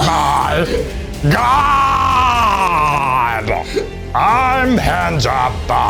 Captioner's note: in puppet voice